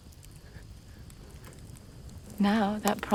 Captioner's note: fire crackling